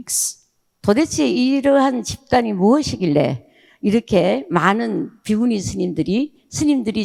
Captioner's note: speaking in foreign language